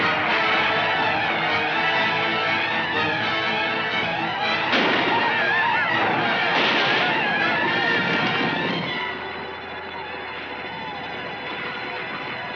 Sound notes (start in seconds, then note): 4.4 gunshots firing